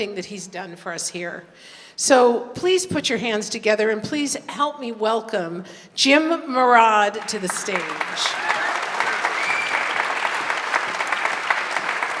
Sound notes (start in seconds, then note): 7.1 audience applauding